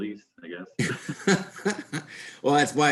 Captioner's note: both laugh